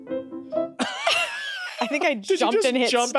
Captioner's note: everyone laughs